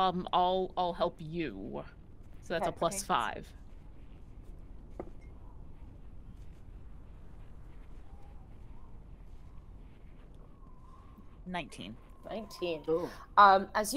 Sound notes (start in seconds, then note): 4.9 dice rolling; 7.9 wind whistling